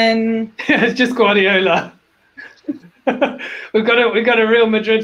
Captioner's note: laughs